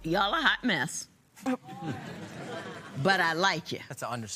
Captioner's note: laughter